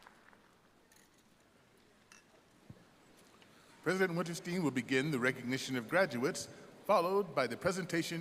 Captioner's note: applause